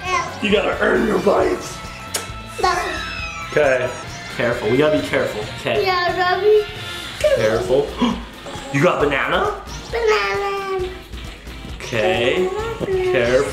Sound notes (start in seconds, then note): 2.0 kisses; 8.2 gasps